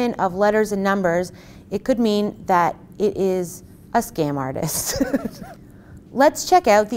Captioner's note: laughs